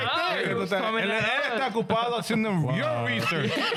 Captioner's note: speaking In Foreign Language